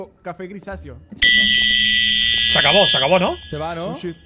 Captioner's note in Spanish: Pitido